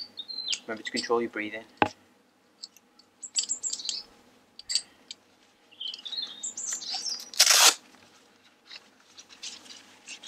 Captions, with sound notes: Remember to control your breathing, [Sound of velcro tearing open]